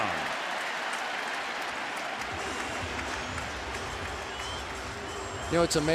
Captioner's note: cheering